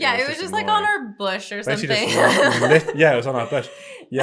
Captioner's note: chuckles